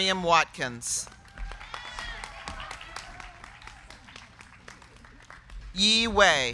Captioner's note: crowd clapping; crowd cheering